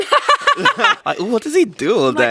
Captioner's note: laughs